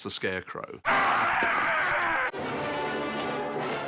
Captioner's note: screaming